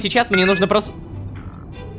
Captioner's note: notification